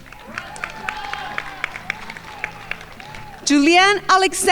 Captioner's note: crowd applauding